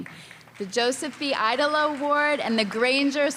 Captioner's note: applause